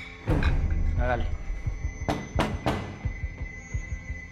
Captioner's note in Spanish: Toques en la puerta